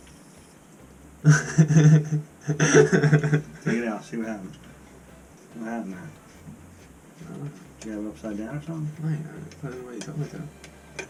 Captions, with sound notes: "*Laughs*" Take it out, see what happened What happened there? "I don't know" Did you have it upside down or something? "I put it the way you told me to"